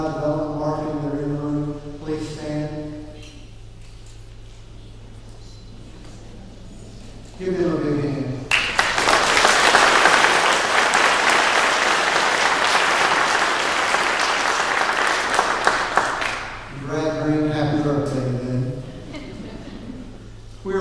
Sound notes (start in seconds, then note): 8.5 clapping